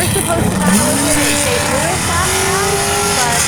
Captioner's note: engine roaring